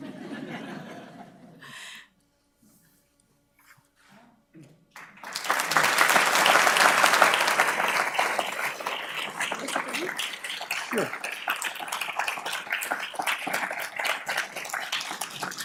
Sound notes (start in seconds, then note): 0.0 audience laughing; 5.3 audience clapping; 12.6 audience clapping